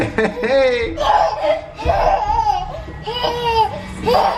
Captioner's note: excited laughter